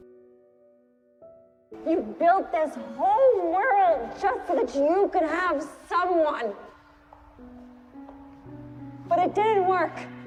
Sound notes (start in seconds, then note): 2.1 shouting